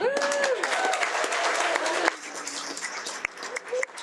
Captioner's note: audience applauding